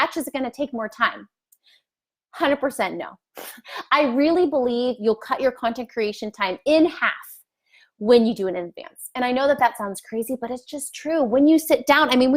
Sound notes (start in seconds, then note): 3.2 laughs